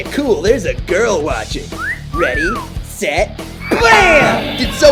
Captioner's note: foxy whistling